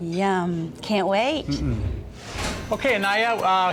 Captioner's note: whoosh